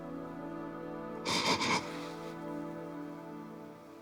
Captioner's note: sniffles